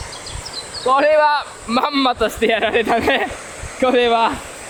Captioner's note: laughs